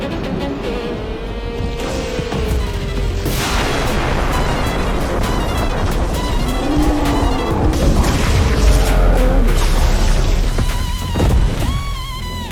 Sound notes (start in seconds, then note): 0.8 dramatic music; 5.7 thunderclap; 10.5 thunderclap